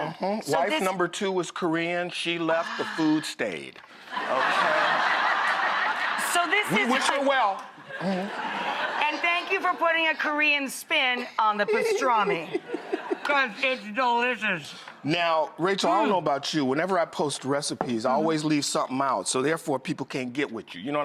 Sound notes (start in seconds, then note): 4.0 audience laughing; 11.6 David laughing